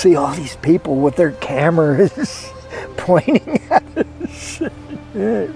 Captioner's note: laughs